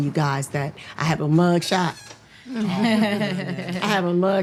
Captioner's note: people chuckling